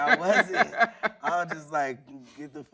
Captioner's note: laughing